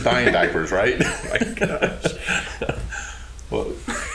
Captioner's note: both laughing